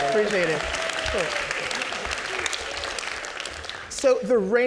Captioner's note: audience clapping